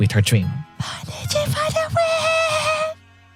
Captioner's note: whispers